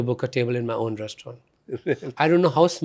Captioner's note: laughs